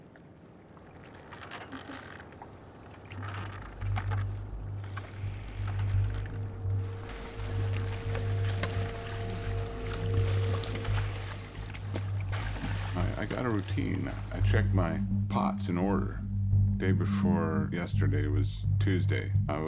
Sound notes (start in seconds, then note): 3.8 dramatic music; 3.8 water splashing